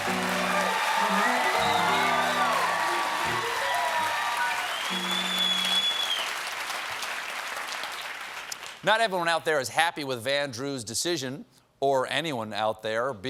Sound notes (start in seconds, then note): 3.5 cheers and applause; 3.5 piano riff